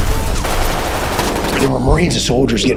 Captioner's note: gunshots